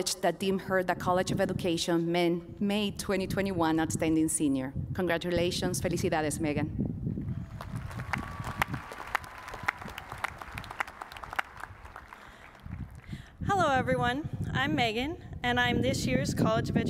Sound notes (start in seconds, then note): 7.4 applause